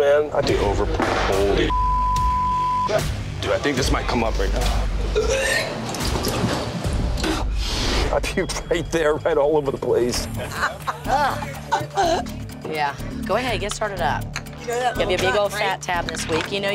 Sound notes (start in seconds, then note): 1.7 beeping; 2.7 tense music; 5.1 retching; 10.3 laughing